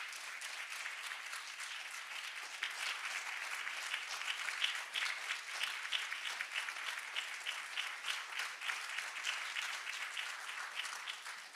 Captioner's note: applause